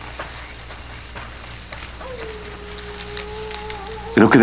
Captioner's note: coyote howls